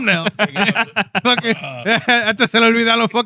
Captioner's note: speaking Spanish